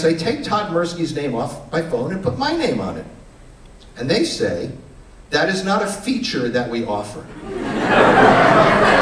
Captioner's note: laughter